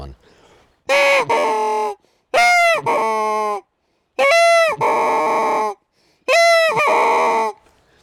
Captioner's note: geese honking